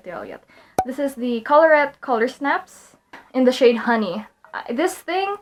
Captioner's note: pop